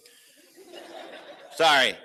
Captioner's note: laughter